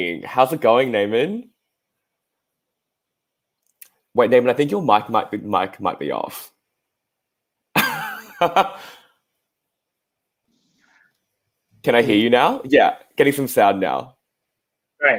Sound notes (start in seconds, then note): 7.8 laughs